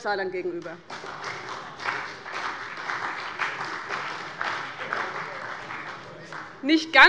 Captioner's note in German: Beifall bei dem BÜNDNIS 90/DIE GRÜNEN sowie bei Abgeordneten der CDU und der SPD